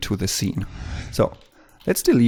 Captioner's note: whoosh